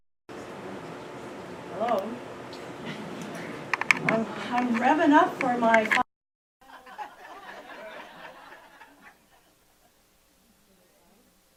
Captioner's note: laughter